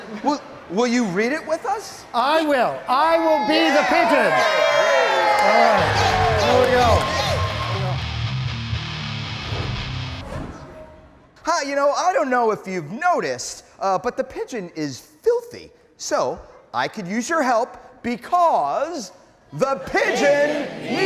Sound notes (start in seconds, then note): 3.0 all cheering; 6.8 upbeat rock music